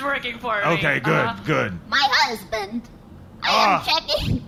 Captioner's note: wavery robotic voice